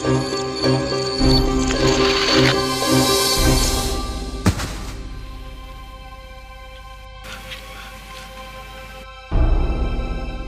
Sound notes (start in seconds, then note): 4.4 thuds; 9.3 suspenseful music continues